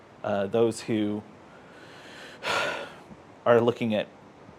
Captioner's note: sigh